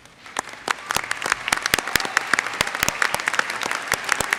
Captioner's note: audience applauds